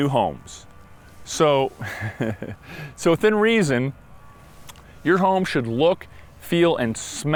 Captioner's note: laughing